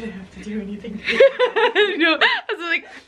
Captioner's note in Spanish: riendo